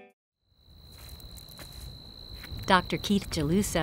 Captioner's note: upbeat music; crickets chirping